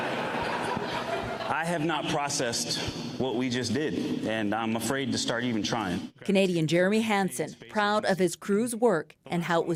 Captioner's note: laughter